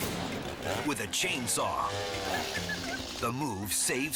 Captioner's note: chainsaw whirs